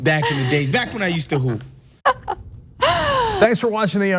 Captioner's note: laugh